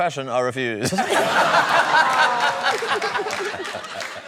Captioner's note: laughter